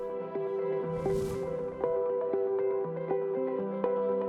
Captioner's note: air whooshing